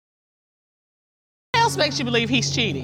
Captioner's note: audience exclaims